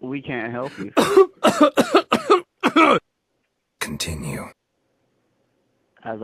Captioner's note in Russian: Жуткий кашель